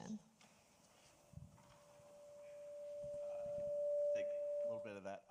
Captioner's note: microphone feedback screeching